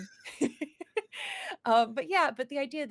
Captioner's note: both laugh